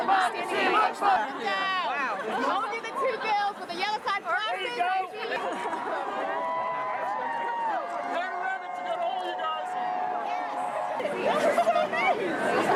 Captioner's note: unison chant; background chatter